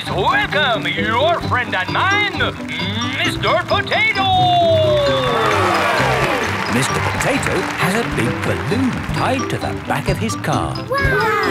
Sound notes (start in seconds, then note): 4.4 cheering